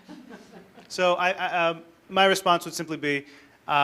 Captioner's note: audience laughter